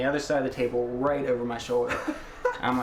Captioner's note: laughs